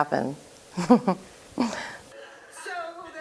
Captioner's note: laughs